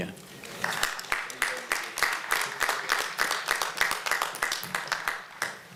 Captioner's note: applause